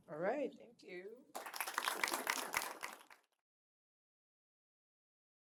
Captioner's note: applause